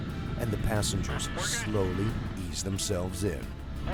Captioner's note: voiceover